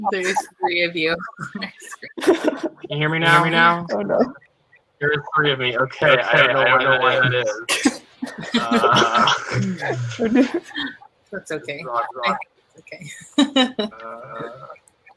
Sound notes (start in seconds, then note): 3.2 laugh silently